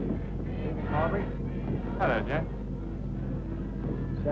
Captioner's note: men chat